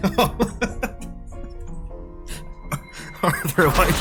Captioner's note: laughter